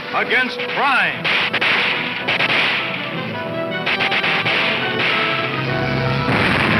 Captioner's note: dramatic music; gun popping